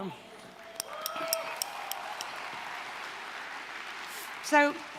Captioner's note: applause, cheering